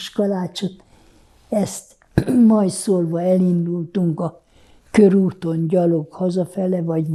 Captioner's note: clears throat